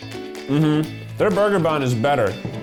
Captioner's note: humming